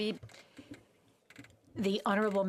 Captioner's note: speaking FRENCH